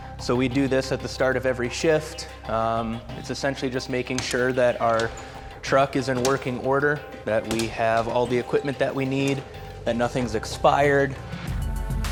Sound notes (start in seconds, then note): 3.6 door clicking; 11.8 upbeat music